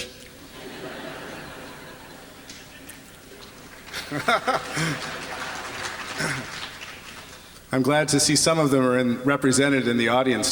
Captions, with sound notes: [LAUGHTER] [APPLAUSE] I'm glad to see some of them are represented in the audience